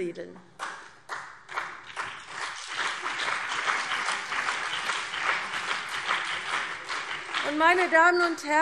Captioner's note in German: Beifall CDU und BÜNDNIS 90/DIE GRÜNEN